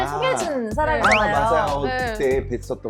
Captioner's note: already acquainted sound effect